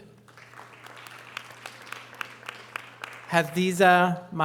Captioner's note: audience applause